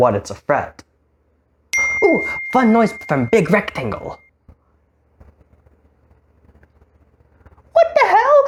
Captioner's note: notification